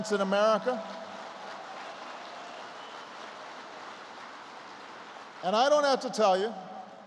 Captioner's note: applause